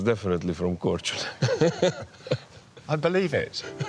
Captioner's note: they laugh